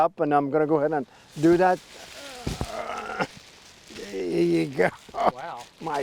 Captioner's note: grunts